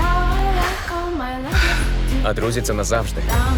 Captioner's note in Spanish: gemido